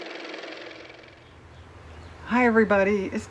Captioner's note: car motor